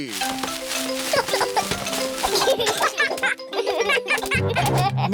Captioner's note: peppa and george giggle